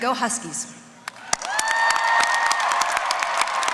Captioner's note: applause